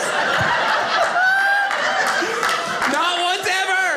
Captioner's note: audience laughing